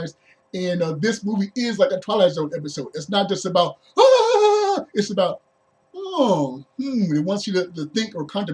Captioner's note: scared shout; inquisitive hum